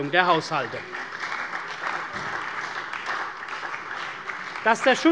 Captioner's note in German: Beifall bei der CDU und dem BÜNDNIS 90/DIE GRÜNEN